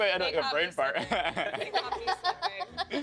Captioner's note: laughing